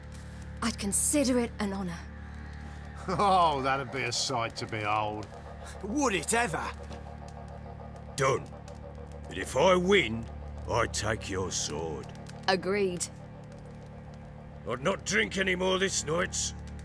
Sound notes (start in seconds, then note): 3.0 chuckle